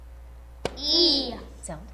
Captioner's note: tap